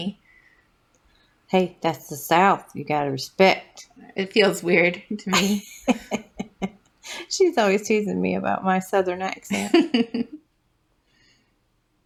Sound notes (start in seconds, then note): 5.2 chuckle; 5.3 laugh; 10.2 laugh